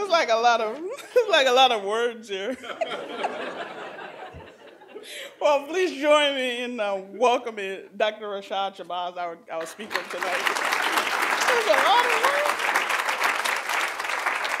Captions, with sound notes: It's like lot of words here. (laughter) Well, please join me in welcoming Dr. Rashad Shabazz, our speaker tonight. (applause) This is a lot of words.